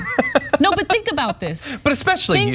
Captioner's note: laugh